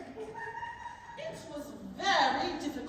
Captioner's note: laughter